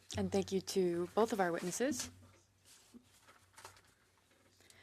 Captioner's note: speaking French